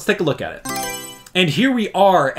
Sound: Mario Selection Sound

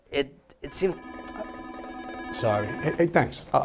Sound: phone ringing

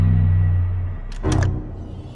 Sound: click

